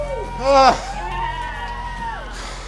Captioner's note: cheering